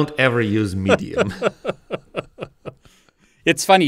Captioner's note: laughs